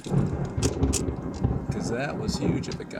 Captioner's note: thunder rumbles